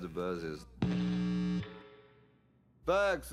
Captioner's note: buzzing